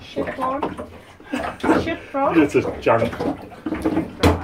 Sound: laughs

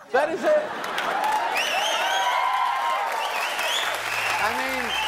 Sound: laughter

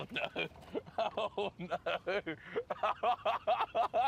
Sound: laughs

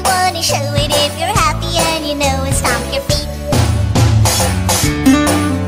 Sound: stomp stomp

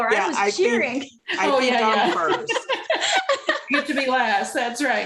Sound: laughter

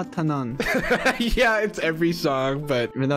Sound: laughing

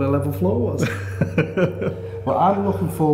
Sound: laughing

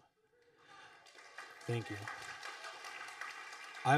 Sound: audience applauding

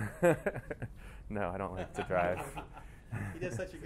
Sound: laughs

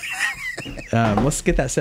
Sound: laughing

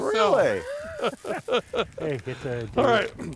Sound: laughing

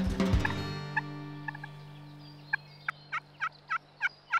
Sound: mock hunting calls

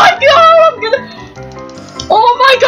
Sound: gasps

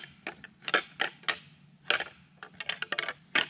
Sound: rattling antlers

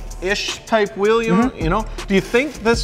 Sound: mhm'ing

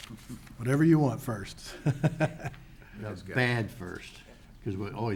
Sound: chuckling

